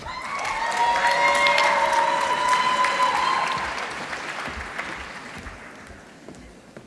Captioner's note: applause